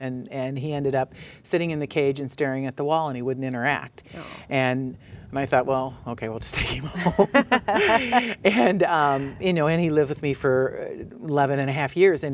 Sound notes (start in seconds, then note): 6.9 laughs